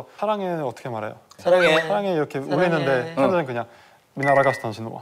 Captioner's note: sweetly